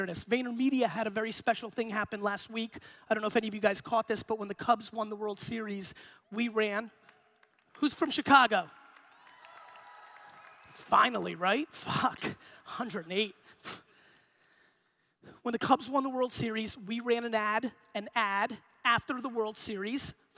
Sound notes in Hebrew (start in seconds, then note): 6.8 הקהל מוחא כפיים; 8.7 תרועות